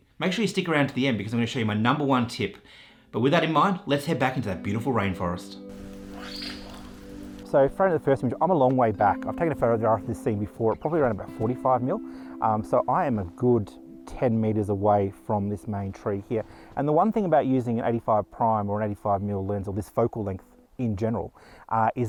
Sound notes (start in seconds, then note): 5.7 light Rainfall